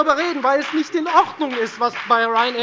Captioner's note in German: Beifall bei der FDP